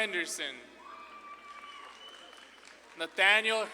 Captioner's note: audience claps and cheers